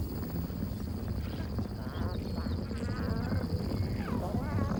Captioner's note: thundering hooves